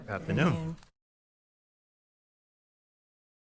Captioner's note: audio cuts off